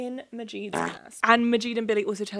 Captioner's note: fart sounding